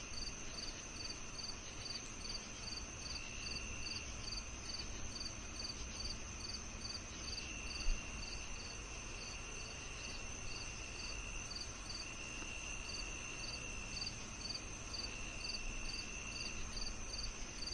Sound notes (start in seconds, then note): 9.0 crickets chirping